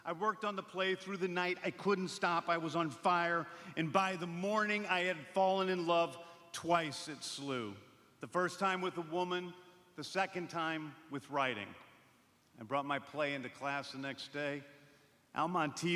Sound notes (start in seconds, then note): none